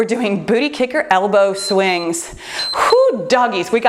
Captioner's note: timer beeps